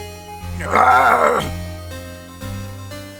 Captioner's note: groaning